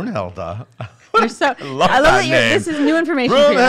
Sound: laughing

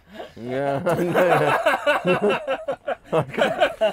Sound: all laugh

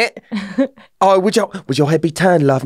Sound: laughs

